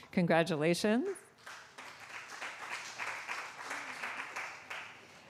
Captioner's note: applause